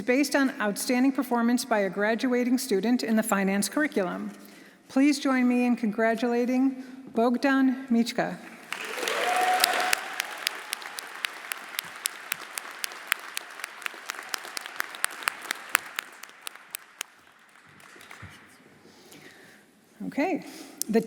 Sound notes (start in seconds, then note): 8.6 audience applauding; 8.7 audience cheering